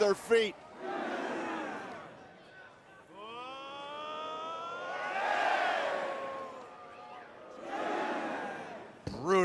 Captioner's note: crowd cheering